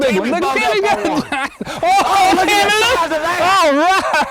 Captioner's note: laughter and excitement